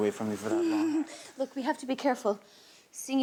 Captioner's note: giggles